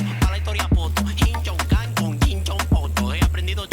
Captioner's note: imitating chinese